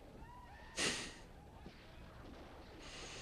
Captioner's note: chuckles softly